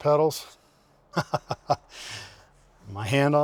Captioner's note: hall laughing